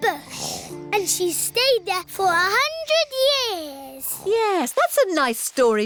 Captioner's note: snoring